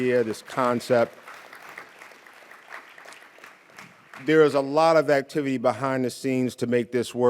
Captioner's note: audience cheering and applauding